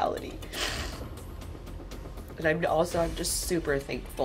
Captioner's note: sniffles